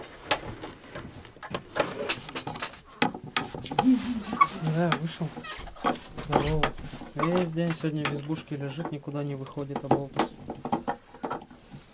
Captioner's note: haha